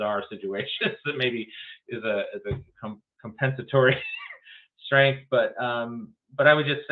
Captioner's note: laughs